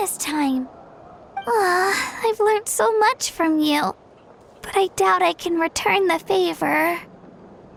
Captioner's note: sigh